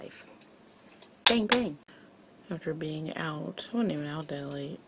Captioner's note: clacks mirrors together